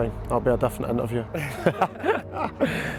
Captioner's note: chuckles